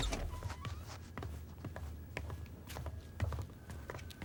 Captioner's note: footsteps thudding